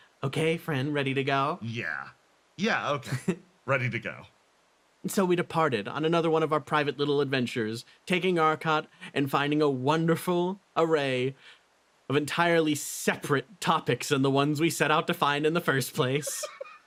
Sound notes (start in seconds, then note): 2.9 Etete Laugh